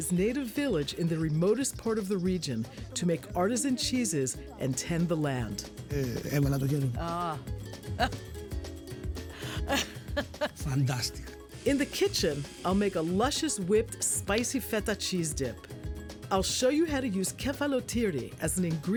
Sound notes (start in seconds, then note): 9.3 laughs